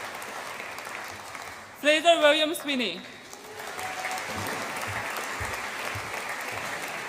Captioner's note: audience applauds and cheers